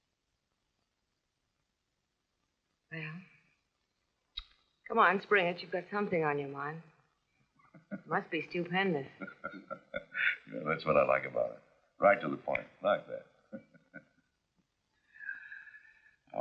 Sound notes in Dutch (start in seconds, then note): 7.8 lachend